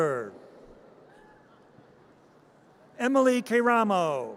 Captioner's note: audience cheers